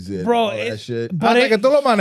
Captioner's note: speaking Foreign Language